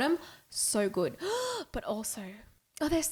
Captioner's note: gasping